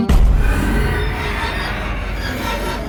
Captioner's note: dragon screeches